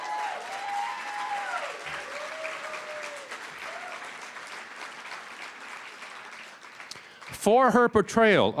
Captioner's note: cheering & Applause